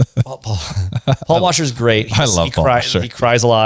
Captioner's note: laughs